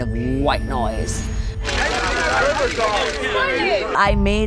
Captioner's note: crowd noise